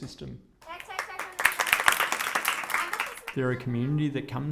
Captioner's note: clapping